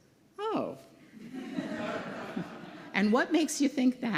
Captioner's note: laughter